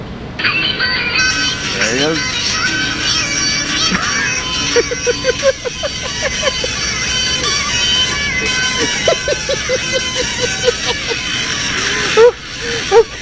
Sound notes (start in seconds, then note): 3.8 resumes Laughing; 7.1 laughing Continues